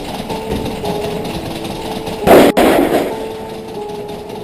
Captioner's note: door banging